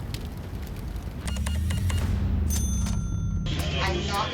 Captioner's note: cash register beeps